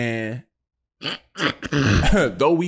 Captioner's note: Kwame snorting